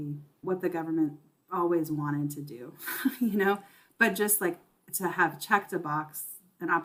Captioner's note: chuckle